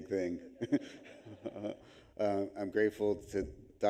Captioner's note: audience laughs